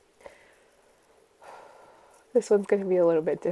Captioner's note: exhales deeply